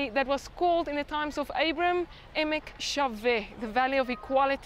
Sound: speaks in Hebrew

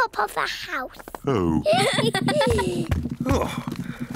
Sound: all giggle

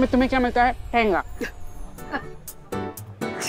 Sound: Sheena laughs

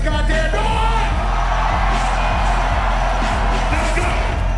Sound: audience cheering

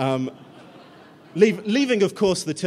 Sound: laughter

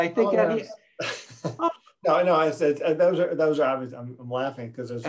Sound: laughing

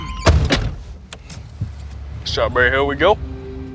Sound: door slamming

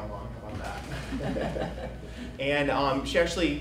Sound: everyone chuckles

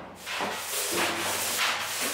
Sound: scrubbing noises

